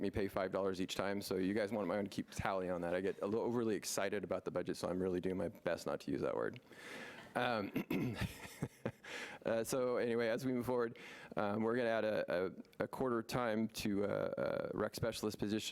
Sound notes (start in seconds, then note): 7.0 laughing